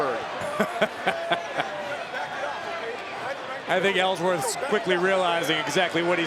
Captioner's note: laugh